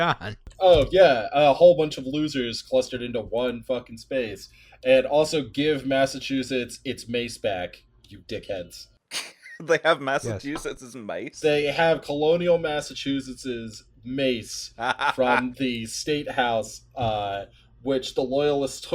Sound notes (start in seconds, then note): 9.1 cracking up; 14.8 drunken pirate cackle